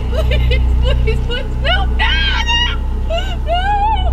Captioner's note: Angela crying and screaming